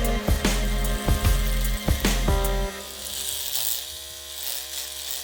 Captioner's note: electric razor humming